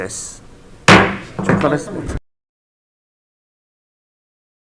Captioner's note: mallet thudding